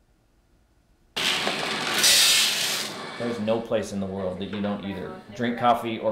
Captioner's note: nat sound of beans being poured